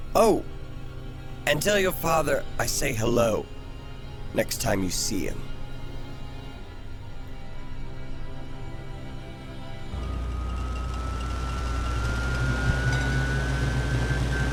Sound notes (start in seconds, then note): 9.9 ship taking off